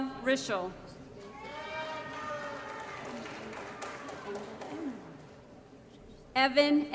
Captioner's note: applause & Cheering